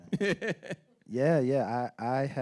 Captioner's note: laughing